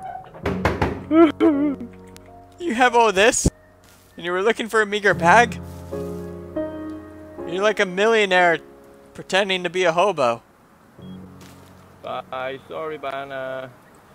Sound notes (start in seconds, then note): 0.0 knocks; 1.0 sobbing